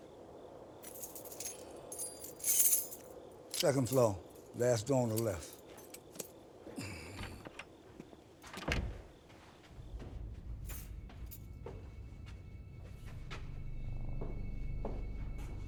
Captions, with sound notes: Second floor. Last door on the left. [door opens] [door clicks shut] [suspenseful music]